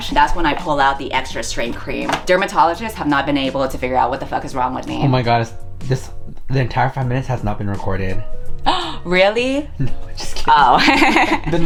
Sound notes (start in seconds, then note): 8.7 gasps; 10.7 both laugh